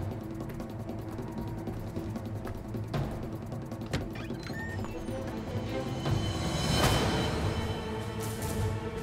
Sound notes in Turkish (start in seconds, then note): 0.0 Müzik - Aksiyon; 3.8 Kapı sesi